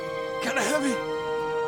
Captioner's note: strained